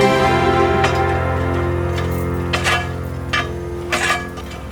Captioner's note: metal scraping